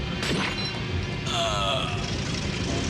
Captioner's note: groans